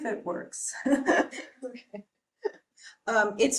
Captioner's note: chuckles